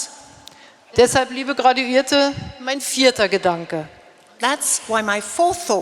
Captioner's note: speaking in German